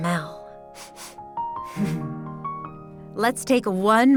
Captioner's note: sniffing deeply